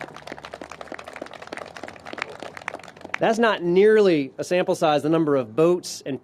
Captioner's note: applause